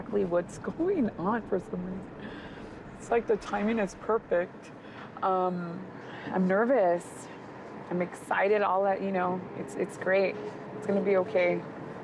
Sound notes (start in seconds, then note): none